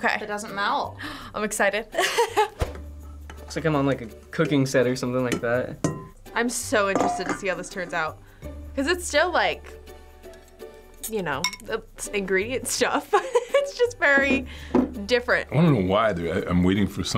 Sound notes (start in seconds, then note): 1.7 gasps; 2.0 laughs; 12.8 laughs